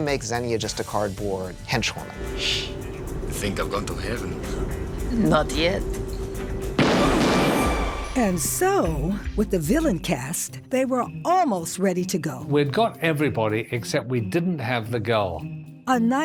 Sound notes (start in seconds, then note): 6.7 gunshots